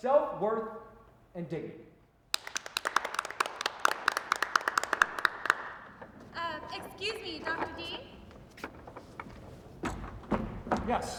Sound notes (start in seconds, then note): 2.3 clapping